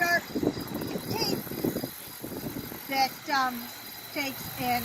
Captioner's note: wind blowing